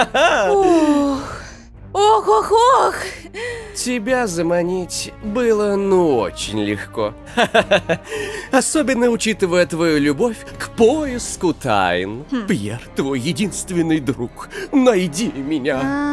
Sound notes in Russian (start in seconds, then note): 7.3 нервно-весёлый смех